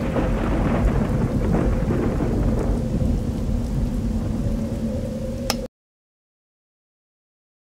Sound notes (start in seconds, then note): 5.4 click